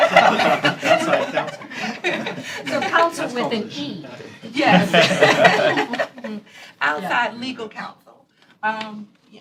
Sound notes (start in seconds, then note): 1.7 laughter